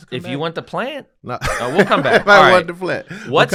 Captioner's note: laugh